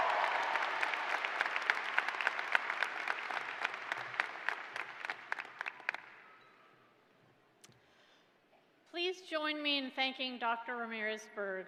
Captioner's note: cheers and applause